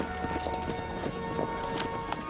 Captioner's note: horses trotting